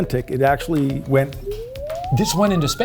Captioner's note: slide whistle tooting